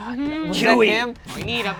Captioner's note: overlapping chattering